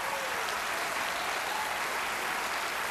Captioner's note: cheering and applause